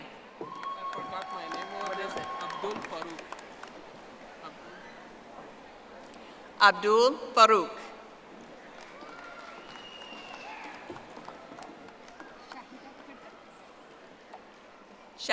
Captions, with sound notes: Raven Cunningham. (audience applauding) Abdul Faruk. (audience applauding)